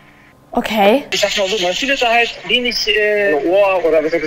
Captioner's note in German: Rauschende Verbindung